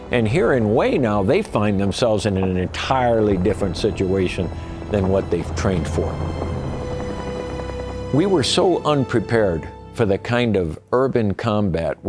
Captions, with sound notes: And here in Hue now, they find themselves in an entirely different situation than what they've trained for. (gentle music) (guns firing) We were so unprepared for the kind of urban combat